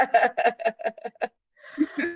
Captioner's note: laughter